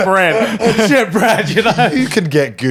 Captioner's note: laughing